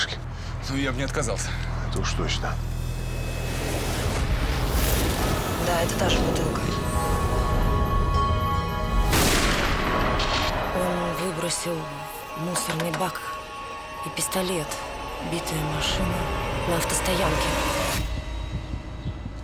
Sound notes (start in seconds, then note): 9.2 gunshot